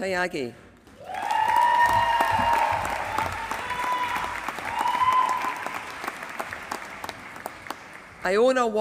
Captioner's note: applause